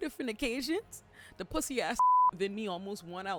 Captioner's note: beep